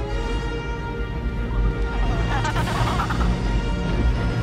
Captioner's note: penguins squawking